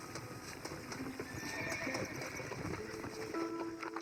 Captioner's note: horse cries; mexico music from the original game